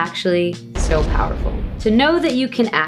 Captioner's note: bomb explodes